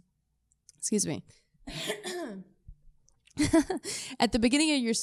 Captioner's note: laughs